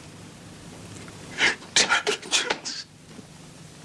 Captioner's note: voice breaking